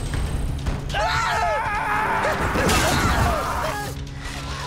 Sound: screaming

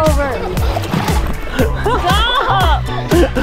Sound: laughing

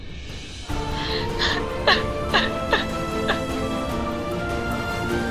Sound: sobbing

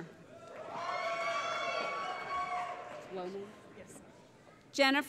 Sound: cheering

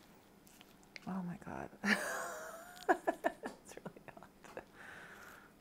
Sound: laughs

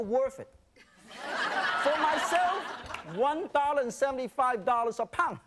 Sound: laughing

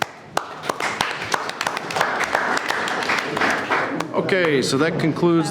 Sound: board clapping

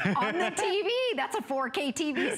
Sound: laughter

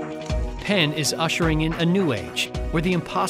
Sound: voiceover

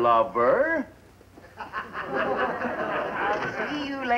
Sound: people laughing

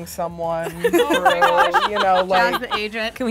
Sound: laughs

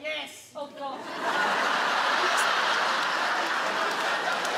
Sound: audience laughs

